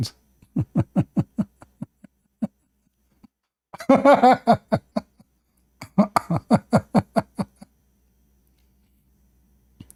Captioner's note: Ketawa